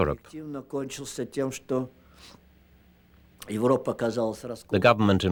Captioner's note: speaking russian